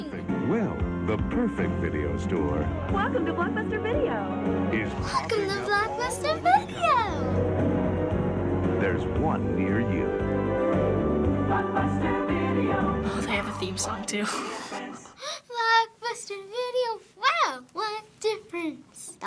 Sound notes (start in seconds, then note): 14.5 snickers